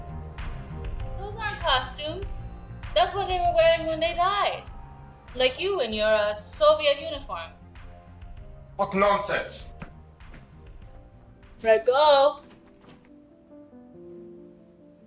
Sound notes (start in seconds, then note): 9.2 melancholy, tender music; 13.1 door's lock rattling